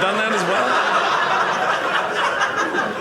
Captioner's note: audience laughing